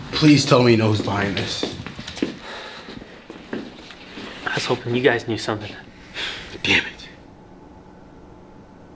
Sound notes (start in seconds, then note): 2.5 Wesley sighs; 5.9 sighs